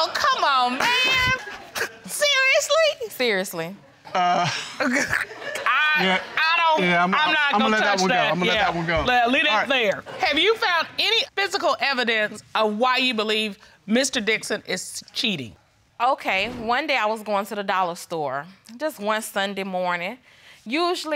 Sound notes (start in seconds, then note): 5.9 stutters